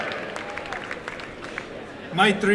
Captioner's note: applause and cheering